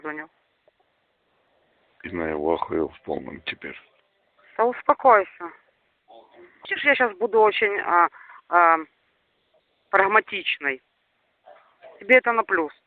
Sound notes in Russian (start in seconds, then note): 2.9 говорят по-русски